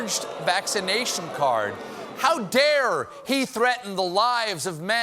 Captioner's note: booing